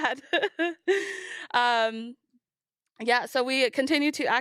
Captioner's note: laughs